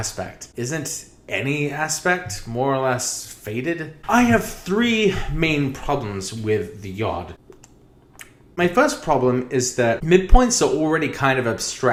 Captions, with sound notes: Isn't any aspect more or less fated? I have three main problems with the yod. *Lip smacking* My first problem is that midpoints are already kind of abstract.